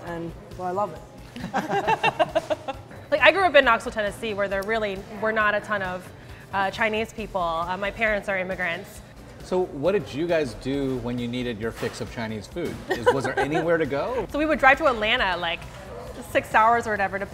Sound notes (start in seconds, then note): 1.4 all laugh; 12.9 laughs